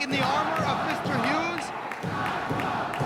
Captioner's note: crowd chanting